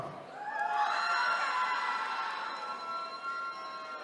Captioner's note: attendees cheering